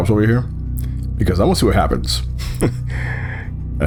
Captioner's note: chuckles